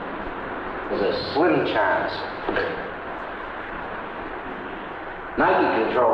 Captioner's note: receiver clacking